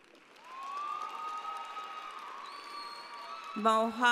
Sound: audience applauding

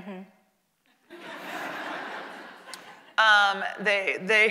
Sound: audience laughing

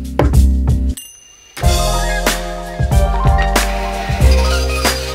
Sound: taps table; bell rings; saw grinding

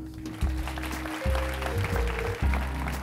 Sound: applause

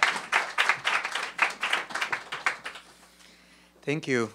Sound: applause

